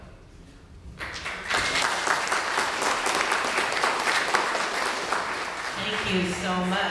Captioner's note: applause